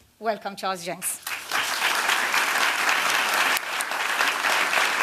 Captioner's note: applause